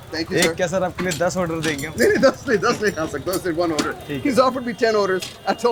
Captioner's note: host and cook speak foreign language